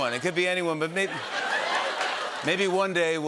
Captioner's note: laughter